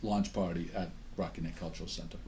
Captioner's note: voiceover